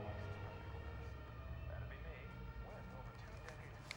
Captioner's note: man on TV